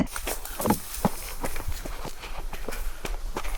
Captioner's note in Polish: odgłosy budowania stosu